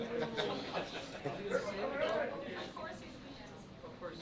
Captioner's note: laughter